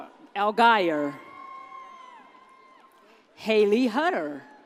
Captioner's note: audience cheers